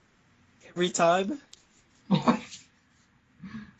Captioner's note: laughing